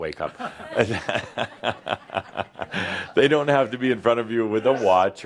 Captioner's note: Adamus chuckles